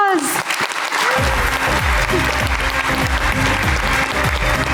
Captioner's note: audience applauding